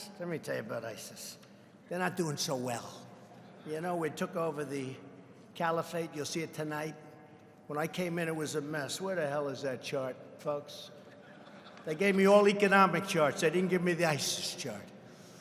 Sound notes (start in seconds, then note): 9.4 laughter